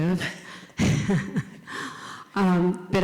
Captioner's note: chuckles